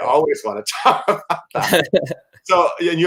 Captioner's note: laughter